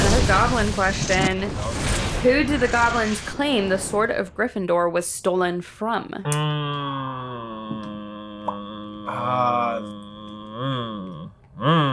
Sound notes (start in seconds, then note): 6.2 humming